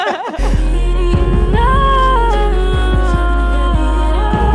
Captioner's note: laughing; voice-through-phone over track; vocal effects change with knob turns